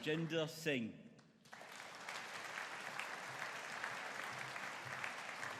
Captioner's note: audience applauding